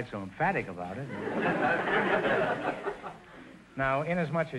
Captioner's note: audience laughter